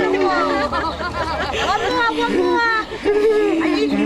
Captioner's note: laughing